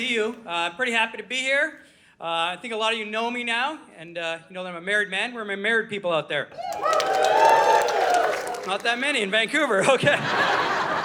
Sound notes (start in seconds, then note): 6.5 audience cheering